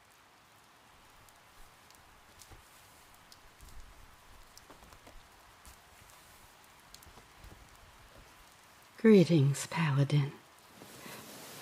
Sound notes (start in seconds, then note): 0.4 soft rain throughout; 4.6 quiet bandaging